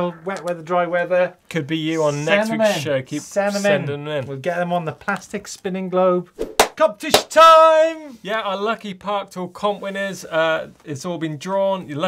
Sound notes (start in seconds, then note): 7.1 claps